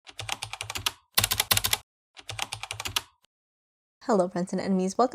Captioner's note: typing